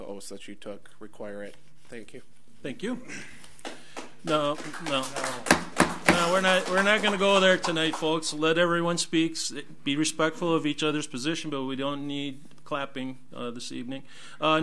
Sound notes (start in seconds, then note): 3.6 audience applauds; 5.7 gavel bangs